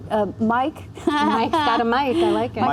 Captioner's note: chuckle